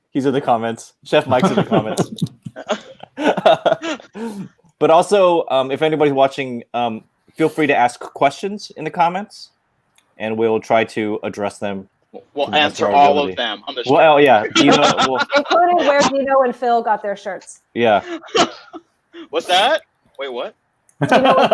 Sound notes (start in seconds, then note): 1.3 laughing; 15.2 laughing; 17.8 laughing